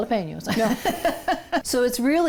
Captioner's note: chuckles